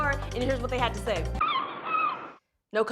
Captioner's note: seagull cawing